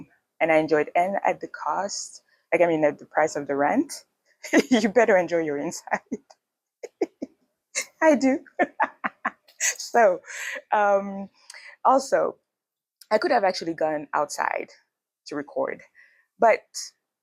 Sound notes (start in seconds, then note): 8.4 laughs